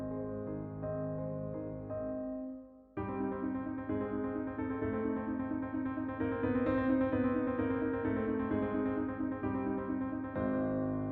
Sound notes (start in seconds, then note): none